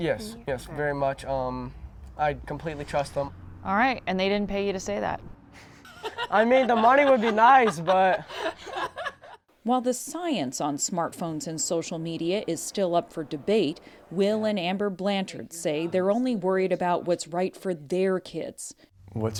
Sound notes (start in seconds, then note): 5.6 laughter